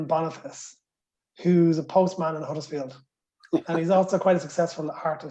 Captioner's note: laughter